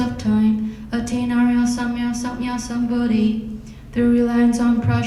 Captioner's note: speaking in foreign language